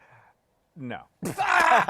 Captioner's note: laughter